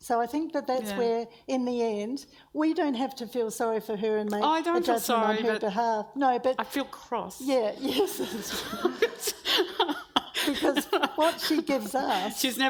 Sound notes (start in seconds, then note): 7.9 everyone laughs